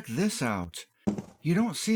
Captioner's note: thunk